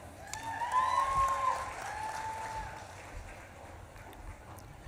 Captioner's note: audience claps and cheers